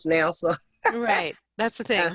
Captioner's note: laughs